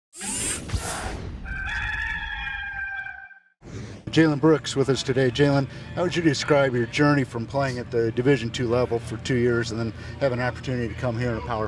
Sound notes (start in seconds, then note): 0.3 dramatic air whooshing; 1.4 cock crowing